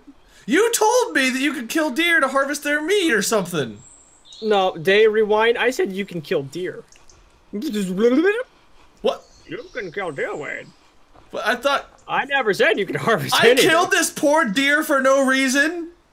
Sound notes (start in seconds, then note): 7.4 makes a Rewind Noise